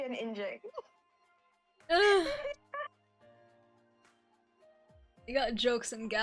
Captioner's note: laughs quietly so won't hear and shoot